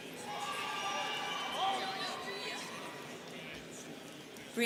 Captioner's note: students cheering